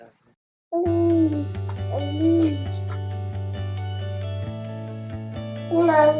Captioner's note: baby moaning; tranquil ambient music